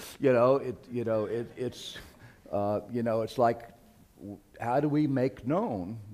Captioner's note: laughter